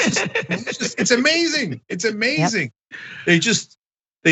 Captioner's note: laugh